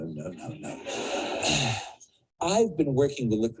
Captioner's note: audience laughs